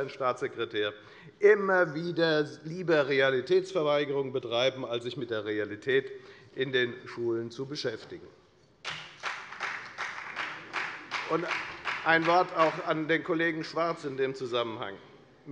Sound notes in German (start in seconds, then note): 8.8 Beifall bei der FDP